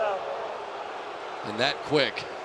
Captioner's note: booing